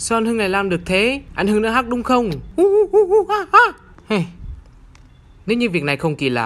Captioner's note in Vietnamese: tiếng khỉ